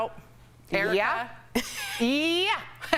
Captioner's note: laughter